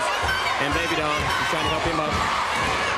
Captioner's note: crowd cheering